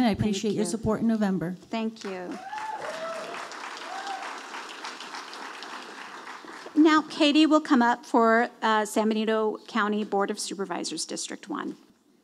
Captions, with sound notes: I appreciate your support in November. - Thank you, thank you. (audience applauding) Now Katie will come up for San Benito County Board of Supervisors, District one.